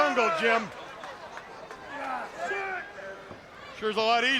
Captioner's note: crowd cheering